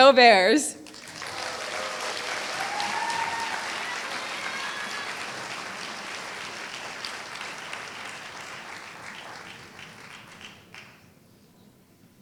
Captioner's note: applause